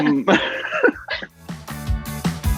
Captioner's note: Amita laughs; Kit laughs; upbeat music